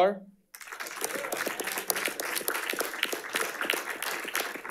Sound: audience applauding

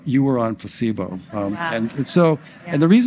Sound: audience gasps

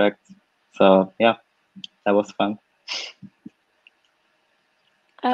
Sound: laughs

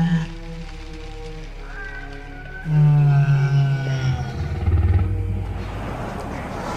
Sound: stegasaurus sounds

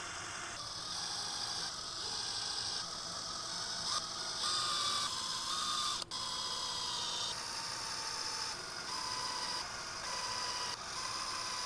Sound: drilling noises of different pitches

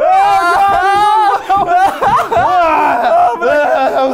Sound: moaning

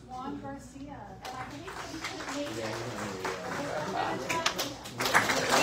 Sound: indistinct chatter; audience applauds

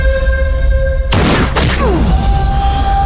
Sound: gunshot

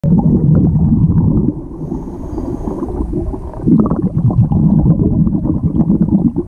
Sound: underwater bubble asmr

